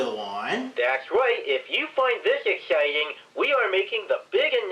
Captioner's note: from phone